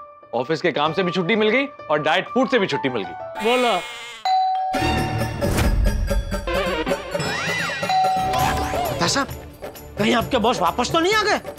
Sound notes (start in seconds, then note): 4.2 doorbell rings